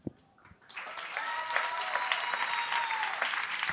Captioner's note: applause